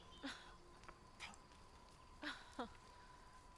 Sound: chuckling

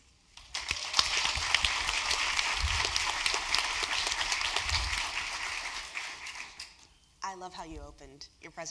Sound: applause

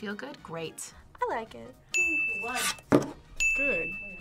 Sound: bell rings

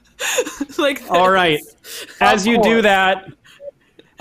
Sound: laughing

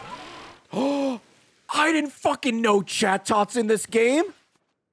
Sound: gasps

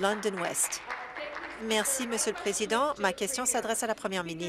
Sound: applause

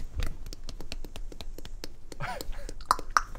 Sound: synchronised nose breaking

